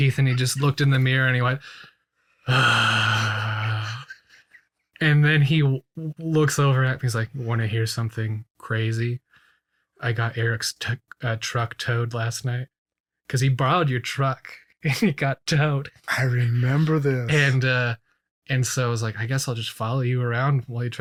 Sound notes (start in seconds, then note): 2.4 laughs; 2.4 imitates sighing